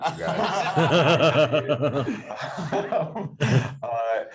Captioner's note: group laughs